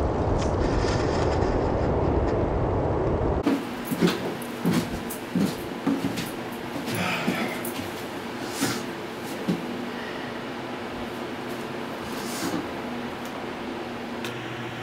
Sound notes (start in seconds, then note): 3.4 footsteps; 6.9 sighs